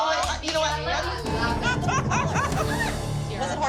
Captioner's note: laughter